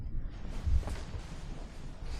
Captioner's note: sheets rustling